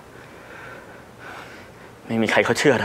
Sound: exhausted Breathing

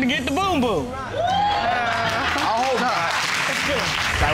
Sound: audience cheers and applauds

